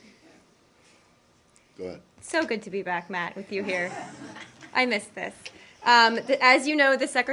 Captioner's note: laughter